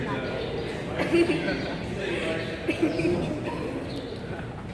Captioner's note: both laugh